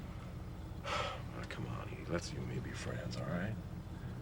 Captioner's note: sighs